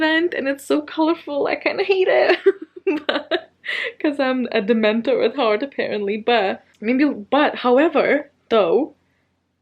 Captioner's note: laughs